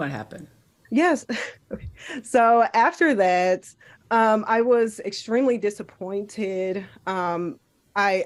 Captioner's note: laughs